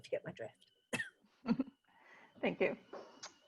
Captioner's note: laughter